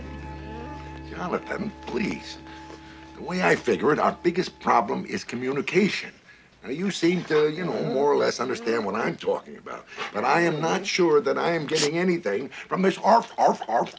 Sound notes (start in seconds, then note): 7.7 dog whines